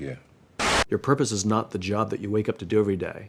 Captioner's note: static